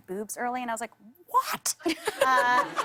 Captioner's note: laughter